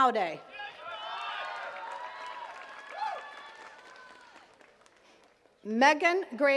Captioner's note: attendees cheering and clapping